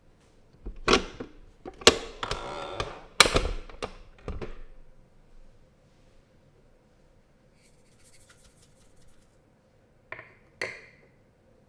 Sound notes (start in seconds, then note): 2.2 clunk, click, creak